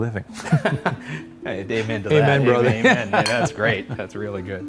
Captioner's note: laughs